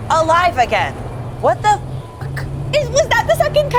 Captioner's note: beeps